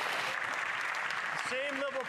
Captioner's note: some Applause